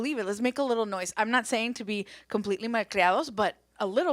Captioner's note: speaks Spanish